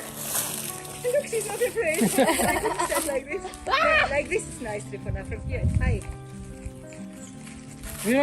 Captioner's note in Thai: เสียงหัวเราะ